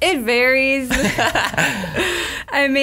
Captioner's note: laughs